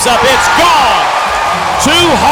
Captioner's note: crowd cheers